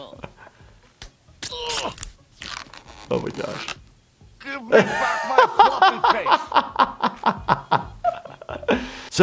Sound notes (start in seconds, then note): 0.3 Farnsworth groaning; 0.9 skin slapping; 1.4 elastic stretching sounds; 7.3 laughing